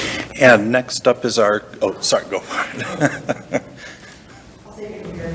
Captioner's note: chuckles